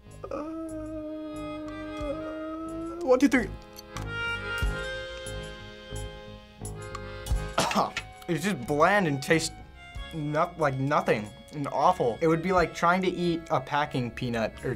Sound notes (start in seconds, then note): 0.1 moaning; 7.5 gagging